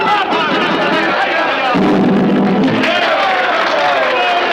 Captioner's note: crowd cheering